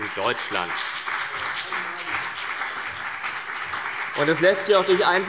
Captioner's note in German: Beifall CDU und BÜNDNIS 90/DIE GRÜNEN